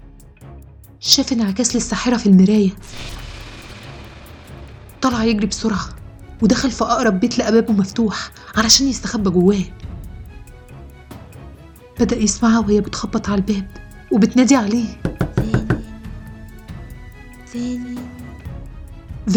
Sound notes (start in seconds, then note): 2.7 suspenseful sound; 9.7 suspenseful music; 15.0 knocking; 17.9 suspenseful music